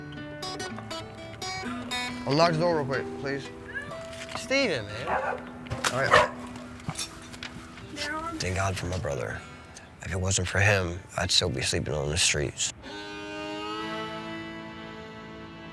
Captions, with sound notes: - Unlock the door real quick, please. Stephen, man. (dog barking) All right. Thank God for my brother. If it wasn't for him, I'd still be sleeping on the streets. (somber music)